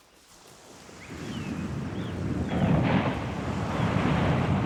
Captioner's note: ocean roaring